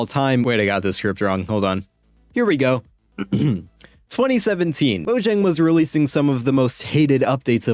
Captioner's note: clears throat